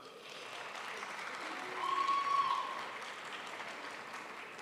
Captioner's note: crowd applauds